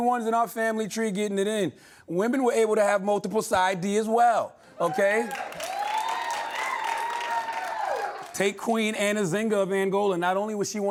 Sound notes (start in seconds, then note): 4.8 cheering and applause